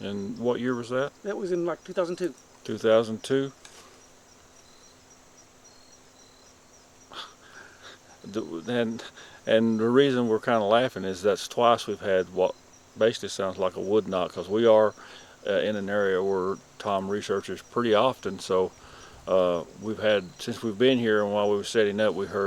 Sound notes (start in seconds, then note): 4.5 knock whacks distantly; 7.1 chuckles